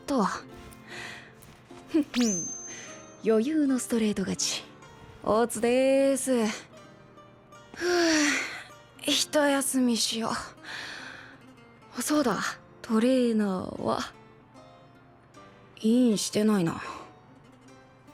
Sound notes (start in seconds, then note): 7.4 sigh